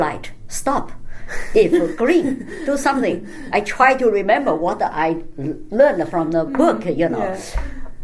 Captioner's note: laugh